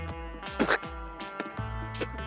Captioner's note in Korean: 뱉는 소리